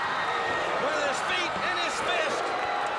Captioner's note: crowd chatter